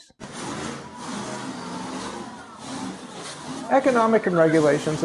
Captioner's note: engine sounds